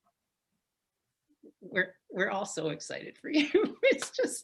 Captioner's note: laughs